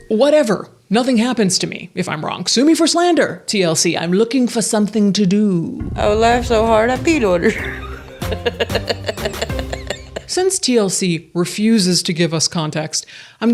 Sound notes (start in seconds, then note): 7.6 persons laugh